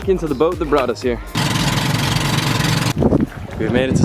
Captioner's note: boat motor running